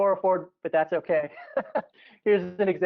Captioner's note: laughing